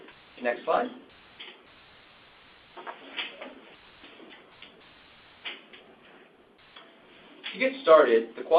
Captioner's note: silence